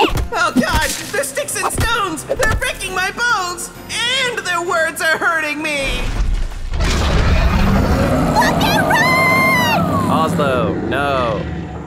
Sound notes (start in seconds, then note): 0.5 rocks thudding; 6.7 Oslo roaring